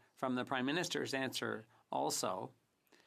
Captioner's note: speaking French